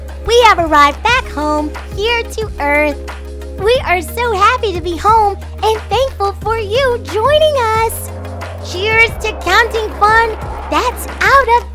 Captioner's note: kids cheering sound effect